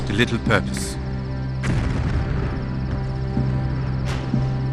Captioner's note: cannons fire